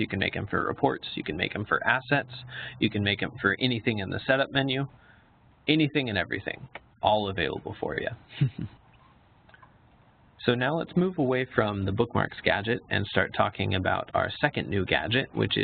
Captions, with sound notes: You can make 'em for reports. You can make 'em for assets. You can make 'em for anything in the Setup menu. Anything and everything, all available for ya. (chuckles) So now let's move away from the Bookmarks gadget, and start talking about our second new gadget,